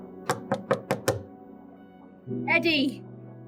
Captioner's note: knocking